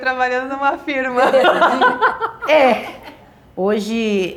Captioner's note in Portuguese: risos